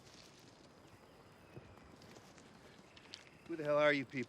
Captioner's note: footstep